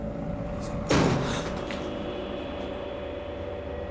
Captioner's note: door bangs